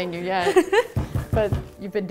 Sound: laughing

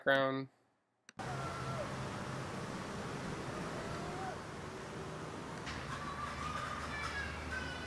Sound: children yelling; light traffic passing

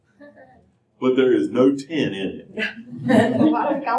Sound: laughter

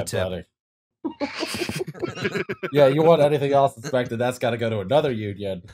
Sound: immature laughter

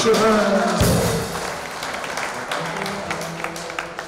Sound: clapping

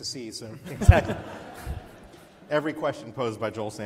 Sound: laughs

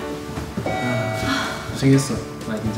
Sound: elevator dings

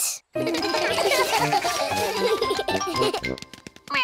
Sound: all giggle

